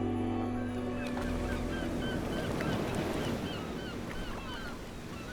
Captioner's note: waves splash gently; seagulls cry